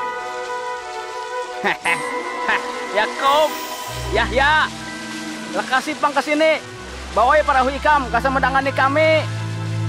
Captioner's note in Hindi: हंसते हैं